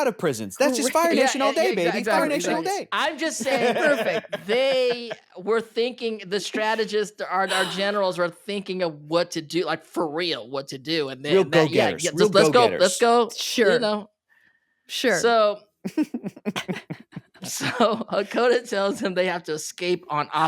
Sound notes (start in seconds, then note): 15.8 chuckling